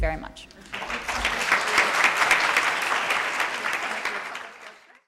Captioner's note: audience applauding